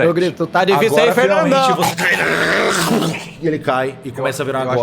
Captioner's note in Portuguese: som do zumbi morrendo